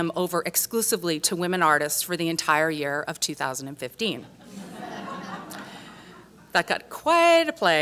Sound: laughs

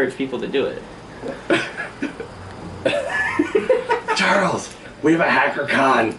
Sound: chuckles

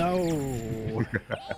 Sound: evil laughter

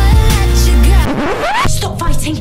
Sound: record scratch

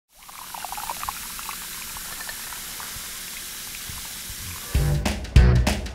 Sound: beakers bubbling over

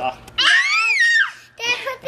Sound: screams

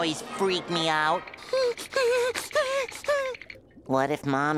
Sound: whimpering and shivering

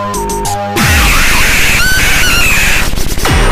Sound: hell fire screeching

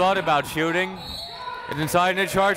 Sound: whistle

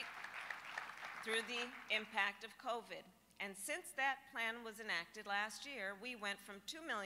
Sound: applause

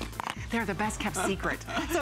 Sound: laughter

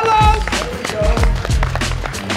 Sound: hands clapping; upbeat music

